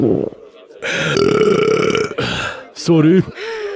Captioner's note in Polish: beknięcie